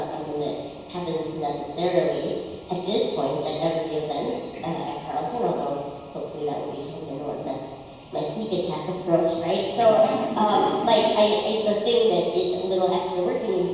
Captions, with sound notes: is not something that happens necessarily at this point at every event. A ton of hope, hopefully that will be known as my sneak attack approach, right? (audience laughs) So, uh, but I, it's a thing that it's a little extra work